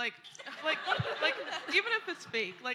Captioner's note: laughter